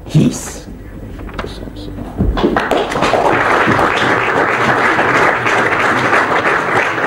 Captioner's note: applause